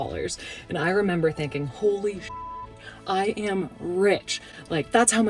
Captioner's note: beep